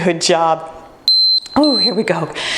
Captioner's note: timer beeping